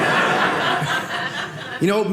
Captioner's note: audience laughing